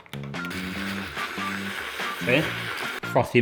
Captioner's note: whisk whirring